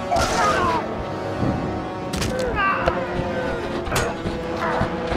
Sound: grunting; shouting

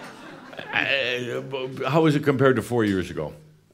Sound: laughter

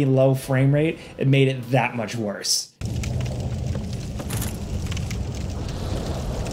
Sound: fire crackling

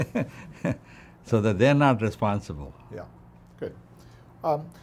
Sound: laughs

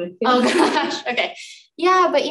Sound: laughs

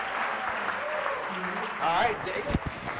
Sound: audience applause

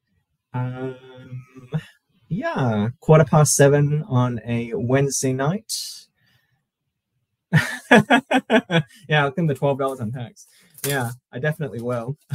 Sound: laughter

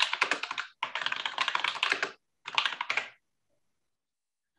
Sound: keyboard clattering

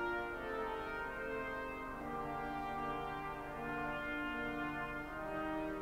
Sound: none

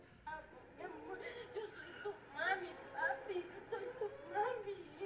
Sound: Spanish speaking

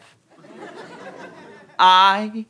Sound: audience laughter

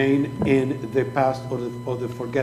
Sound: speaking foreign language

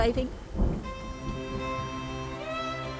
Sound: thundering

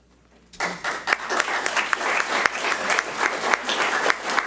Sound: audience applauds

